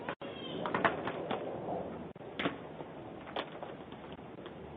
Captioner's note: luggage clattering